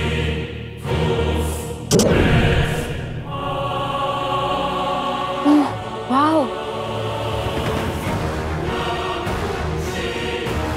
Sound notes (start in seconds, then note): 1.8 whirring sound; 7.9 suspenseful music plays